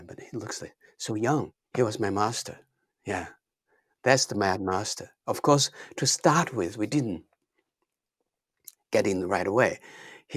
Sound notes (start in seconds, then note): none